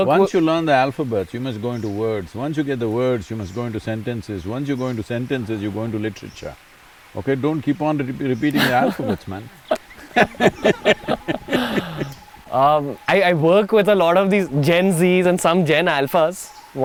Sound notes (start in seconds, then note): 11.7 laughs